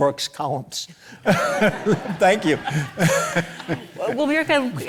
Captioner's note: audience laughs